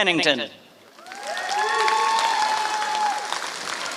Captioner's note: applause